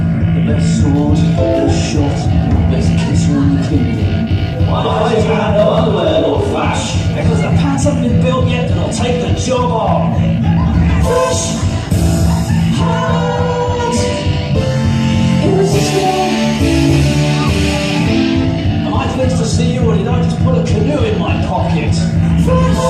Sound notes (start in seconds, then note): 4.7 crowd